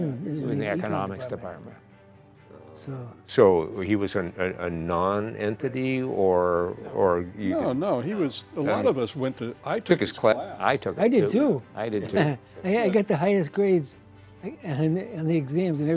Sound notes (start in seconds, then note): 12.0 chuckles